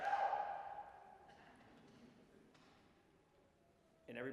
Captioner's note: audience chuckling